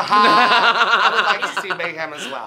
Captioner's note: Mayhem laughs